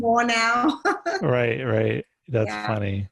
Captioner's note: laughing